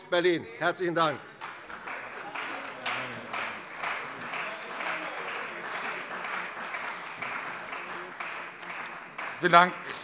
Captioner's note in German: Beifall bei der CDU